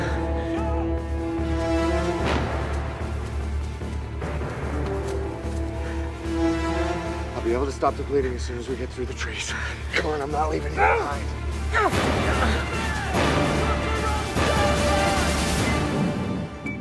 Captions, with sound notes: I'll be able to stop the bleeding as soon as we get through the trees. Come on, I'm not leaving you behind. - [Grunts of pain]